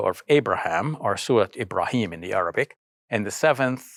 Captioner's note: speaks in foreign language